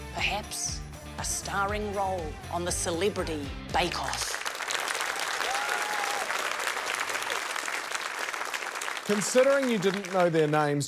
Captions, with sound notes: 'Perhaps a starring role on the Celebrity Bake Off.' (APPLAUSE) - Considering you didn't know their names,